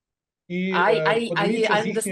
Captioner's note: speaking ukrainian